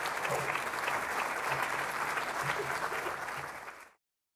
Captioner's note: applause